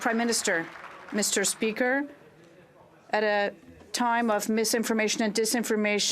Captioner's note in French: applaudissements